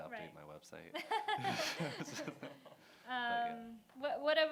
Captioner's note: laughter